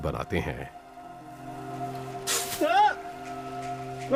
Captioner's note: shouts